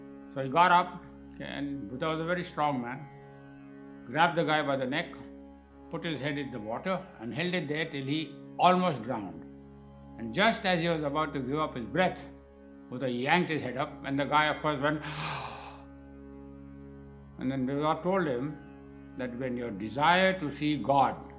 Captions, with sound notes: So he got up and Buddha was a very strong man, grabbed the guy by the neck, put his head in the water and held it there till he almost drowned. And just as he was about to give up his breath, Buddha yanked his head up, and the guy of course went (sound of gasping air) And Buddha told him, that when the desire to see God